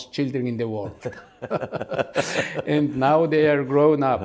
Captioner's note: laugh